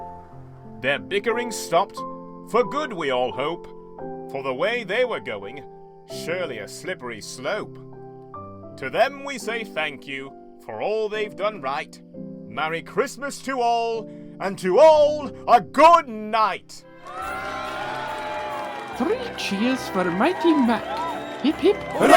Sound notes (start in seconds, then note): 17.0 applause and cheering